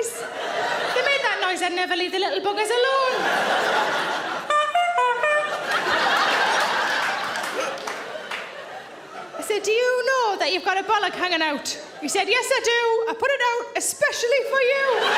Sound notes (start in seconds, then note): 4.4 mimics clown horn tooting; 5.1 loud laughter and applause